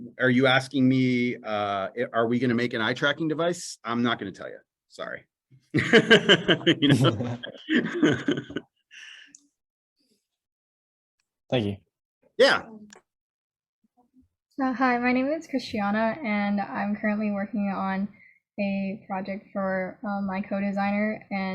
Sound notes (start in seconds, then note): 5.7 laughter